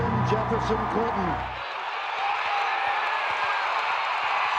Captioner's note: cheers